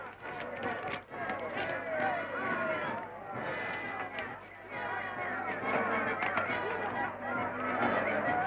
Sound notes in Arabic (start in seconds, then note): 0.6 تستمر الموسيقى المبهجة; 0.6 يستمر هتاف الجمهور